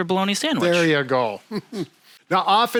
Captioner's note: chuckling